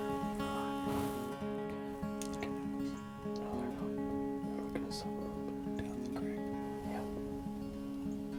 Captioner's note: whispering